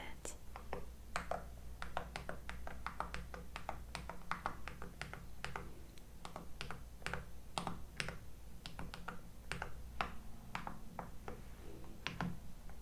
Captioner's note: HE108 typing and tapping sounds